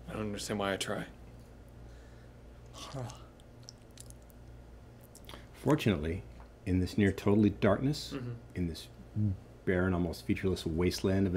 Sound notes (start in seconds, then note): 2.6 chewing